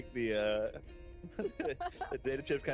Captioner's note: laughs